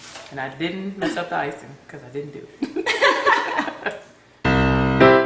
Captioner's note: laughter